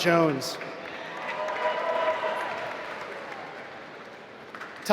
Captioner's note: applause